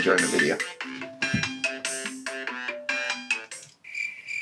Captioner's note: phone rings